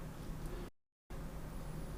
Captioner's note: silence